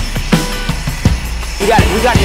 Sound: engine roaring

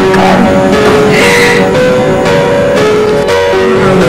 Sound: chuckling

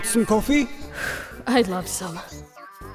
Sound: phew

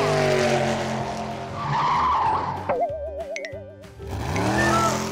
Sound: cartoon car noises

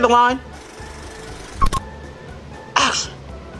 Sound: film running; beeping

